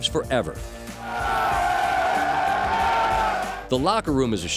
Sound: cheers

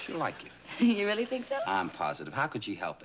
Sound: giggles

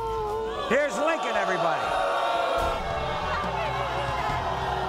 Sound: audience boos

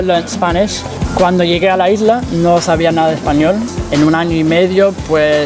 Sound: speaking in Spanish

